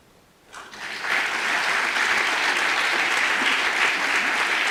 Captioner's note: audience applause